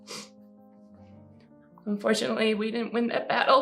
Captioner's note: sniffling